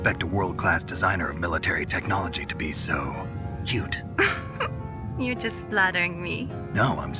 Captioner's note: giggles